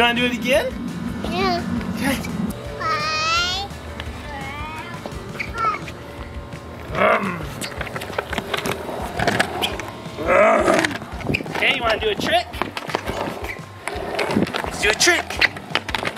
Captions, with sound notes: You want to do it again? (revving mouth noise) Hey, you want to do a trick? Let's do a trick.